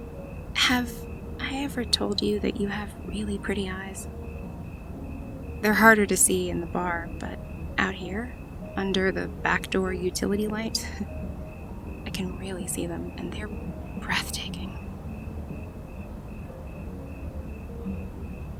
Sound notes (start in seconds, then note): 0.3 shyly; 11.5 laughs